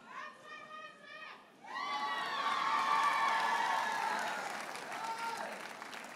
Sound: audience cheers and applauds

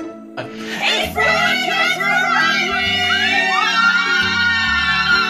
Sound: screaming loudly

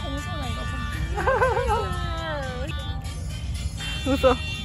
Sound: laughs

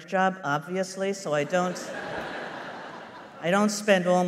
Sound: laughter

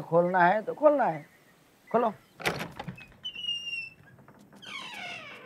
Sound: door opening

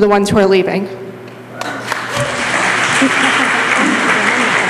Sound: applause

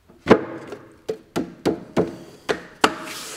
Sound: knock

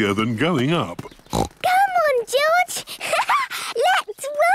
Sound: snorts; laughs

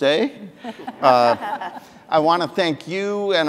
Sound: audience laughing

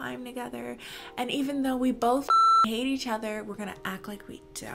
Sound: beep

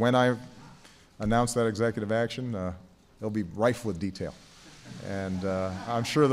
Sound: laughter

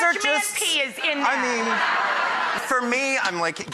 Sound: audience laughing

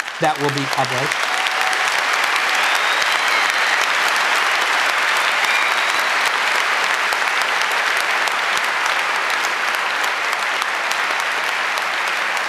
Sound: applause

